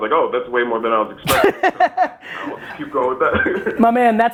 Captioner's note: laughing; laughs